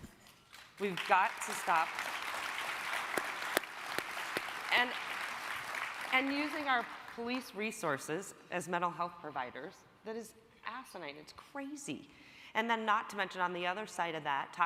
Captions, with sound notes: We've got to stop... (crowd applauding) and using our police resources as mental health providers, that is fascinated, it's crazy. And then not to mention on the other side of that,